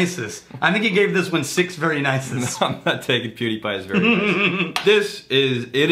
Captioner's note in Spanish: Riéndose